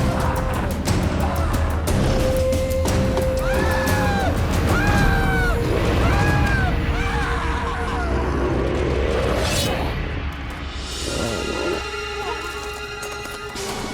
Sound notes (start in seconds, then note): 0.1 Wally screams; 0.1 menacing, dark music; 4.8 Wally screams; 7.0 Loki growls; 9.2 axe whooshes; 10.7 unsettling music